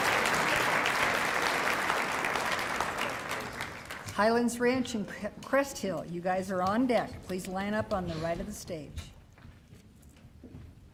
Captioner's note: cheering and applause